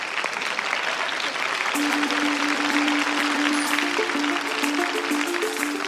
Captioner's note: applause